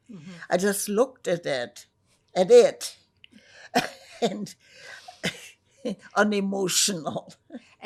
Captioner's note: laughing